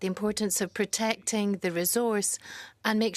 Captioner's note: speaking French